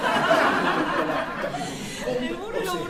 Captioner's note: laughter